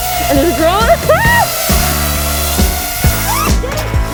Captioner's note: drone whirring